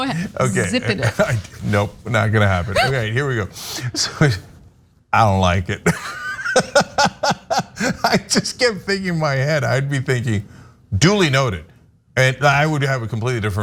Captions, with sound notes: >> Go ahead. >> Okay. >> Zipping it. >> Nope, not going to happen. Okay, here we go. I don't like it, [LAUGH] I just keep thinking in my head, I'd be thinking duly noted and I would have a completely different